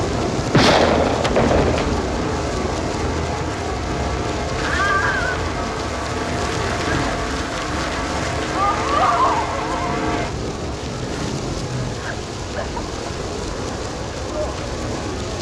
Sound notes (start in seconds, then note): 0.5 gunshot; 4.6 Liz whines; 12.5 Liz sobs